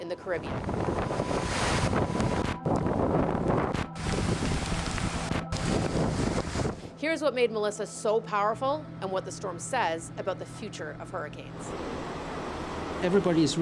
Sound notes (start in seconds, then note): none